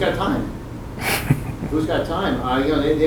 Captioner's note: laughs